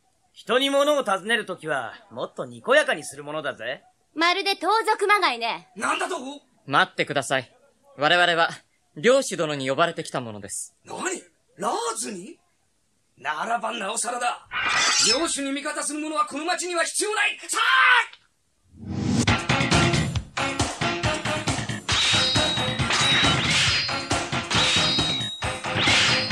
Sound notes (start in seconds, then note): 14.6 SFX: unsheathes sword; 21.7 SFX: swords clash